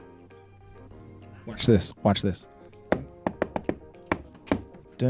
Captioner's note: knocks